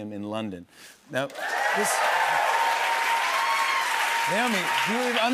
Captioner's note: cheers and applause